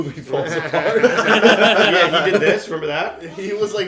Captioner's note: laughter